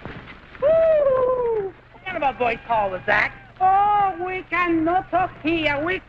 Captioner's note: speaks in Spanish